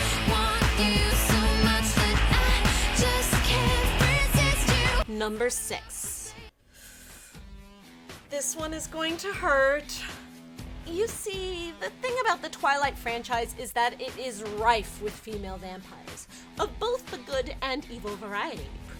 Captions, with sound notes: Number six. [sucking in breath] This one is going to hurt. You see, the thing about the Twilight franchise is that it is rife with female vampires of both the good and evil varieties.